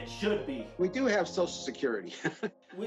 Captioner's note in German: lacht